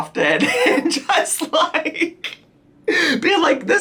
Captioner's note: chuckles